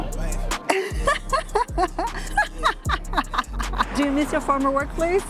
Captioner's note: laughs